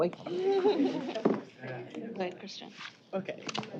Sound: indistinct chatter

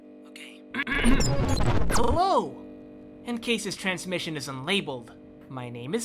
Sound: ahem

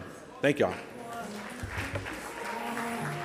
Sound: audience applauds

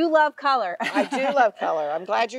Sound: chuckling

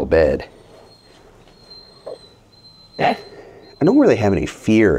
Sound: dog whimpering

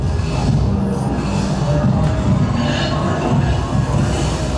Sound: voices groaning

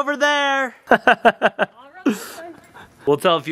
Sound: laughing

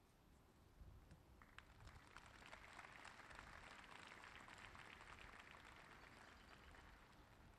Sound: applause

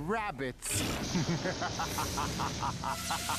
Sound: laughs fiendishly

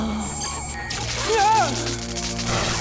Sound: shrieking

